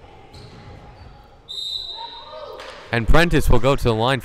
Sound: whistle blowing

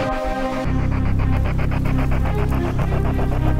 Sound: heavily breathing

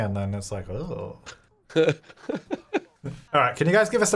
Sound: laughing

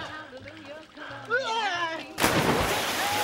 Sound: screams

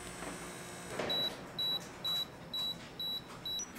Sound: beeps; beeps faster

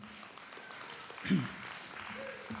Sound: applause

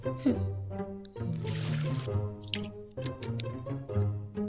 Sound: funky music; milk splashing; slurping

